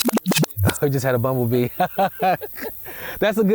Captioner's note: laughs